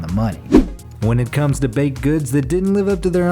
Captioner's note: air whooshes